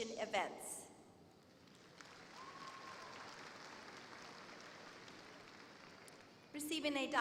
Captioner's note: applause